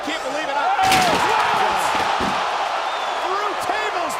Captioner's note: crowd cheering